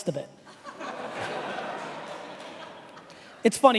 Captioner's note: laughing